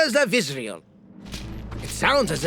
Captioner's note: soldiers marching